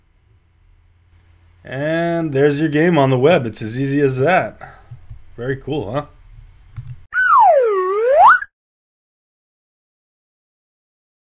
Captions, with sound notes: And there's your game on the web, it's as easy as that. Very cool, huh? (slide whistle)